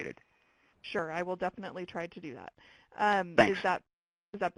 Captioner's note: voiceover